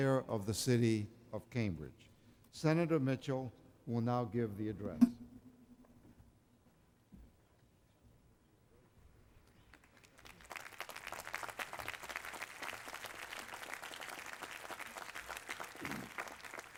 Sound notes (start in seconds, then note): 9.5 applause